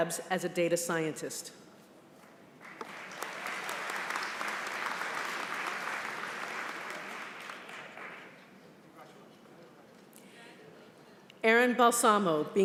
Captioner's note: applause